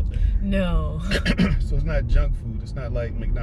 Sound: cough

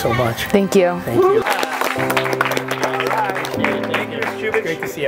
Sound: students clap

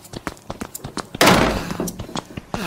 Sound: groans in pain

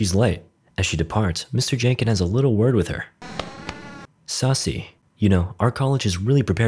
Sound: tap tap

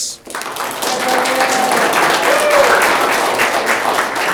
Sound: audience clapping

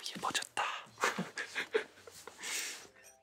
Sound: laughing

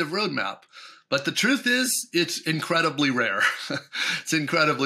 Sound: chuckles

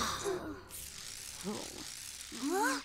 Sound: sighs

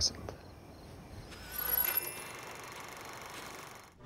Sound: film reel clicking

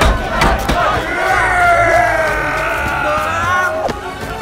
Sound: yelling

